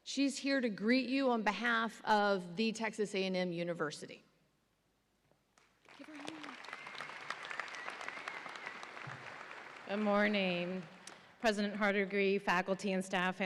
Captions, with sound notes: She's here to greet you on behalf of the Texas A&M University. Give her a hand. (audience applauds and cheers) - Good morning, President Hardigree, faculty and staff,